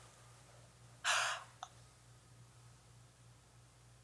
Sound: gasps

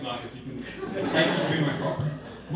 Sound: audience laughing

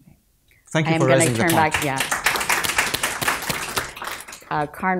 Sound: applause

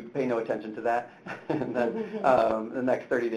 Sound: chuckles

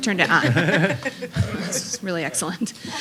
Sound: laughter

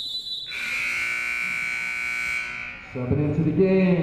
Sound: whistle blowing; buzzer sounding

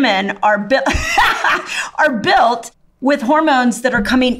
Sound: laughs

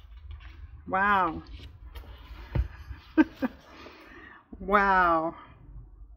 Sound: laughs

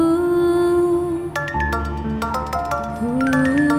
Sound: mobile ringing

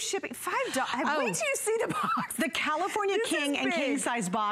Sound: laughter

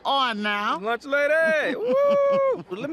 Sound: lunch lady chuckles

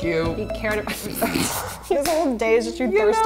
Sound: both laugh

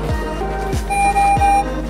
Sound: beeping

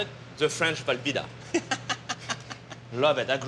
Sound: laughs

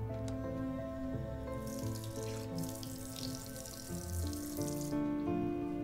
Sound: water running

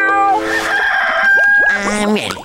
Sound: rooster crowing

